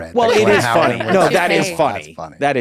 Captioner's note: group laughing